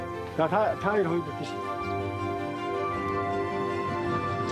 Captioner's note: foreign spoken audio